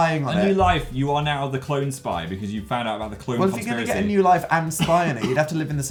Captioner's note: cough